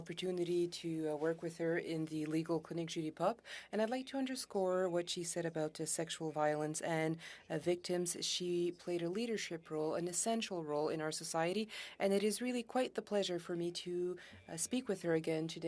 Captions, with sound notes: ABLE TO ASK A QUESTION. I HAD THE OPPORTUNITY TO WORK WITH HER IN THE [Speaking French] AND I'D LIKE TO UNDERSCORE WHAT SHE SAID ABOUT THE SEXUAL VIOLENCE AND VICTIMS SHE PLAYED A LEADERSHIP ROLE, ESSENTIAL ROLE, IN OUR SOCIETY, AND IT IS